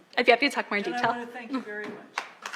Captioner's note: applause